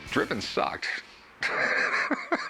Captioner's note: laughs